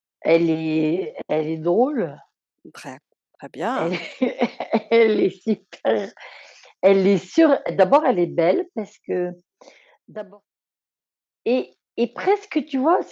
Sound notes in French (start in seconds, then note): 3.9 rires